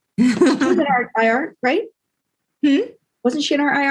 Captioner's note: laugh